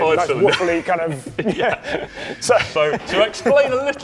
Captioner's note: laughing